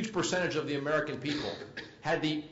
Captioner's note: cough